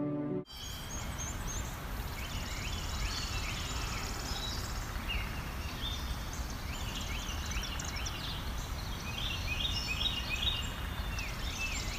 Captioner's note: slow piano music plays; sounds of birds and other wildlife